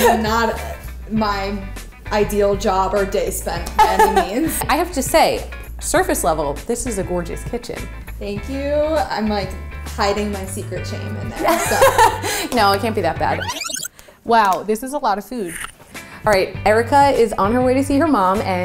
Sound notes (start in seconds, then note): 11.4 laughs; 13.3 record screeching